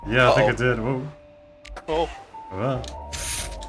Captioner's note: nervous SFX